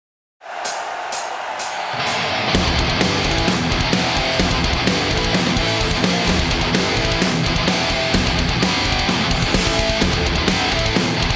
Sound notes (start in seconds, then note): 0.4 crowd cheering; 0.5 heavy metal music playing